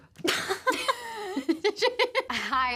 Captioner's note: both laugh